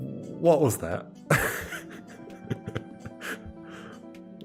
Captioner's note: laughs